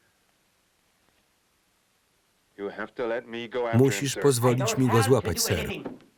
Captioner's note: sobbing